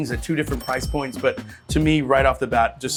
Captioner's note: cash register dings